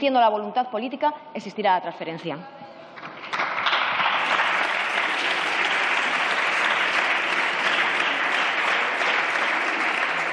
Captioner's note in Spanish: Aplausos